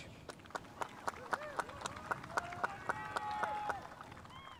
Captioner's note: spectators applauding